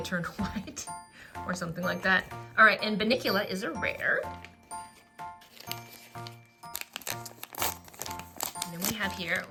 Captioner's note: laughs